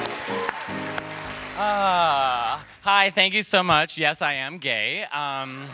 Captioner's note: applause